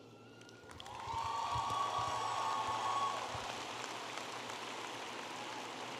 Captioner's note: audience applauding and cheering